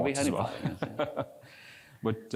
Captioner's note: laugh